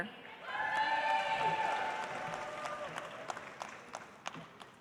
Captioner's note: audience applauds